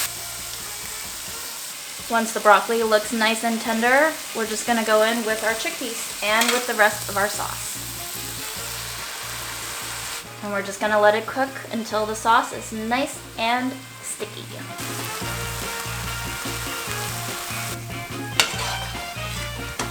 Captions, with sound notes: Once the broccoli looks nice and tender, we're just gonna go in with our chickpeas and with the rest of our sauce. And we're just gonna let it cook until the sauce is nice and sticky. (sizzling sounds) (upbeat music)